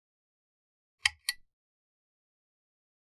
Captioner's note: click Sound